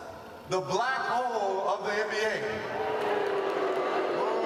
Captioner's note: applause